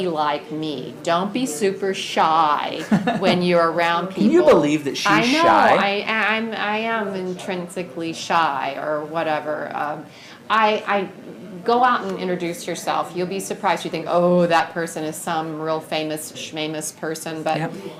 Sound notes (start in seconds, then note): 2.9 laughs